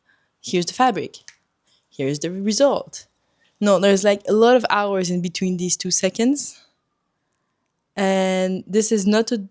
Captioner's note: clic